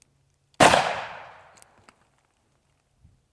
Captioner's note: gun shooting